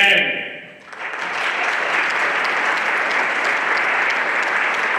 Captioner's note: everyone applauding